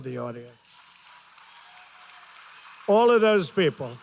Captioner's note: applause